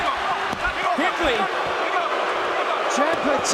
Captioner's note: crowd cheering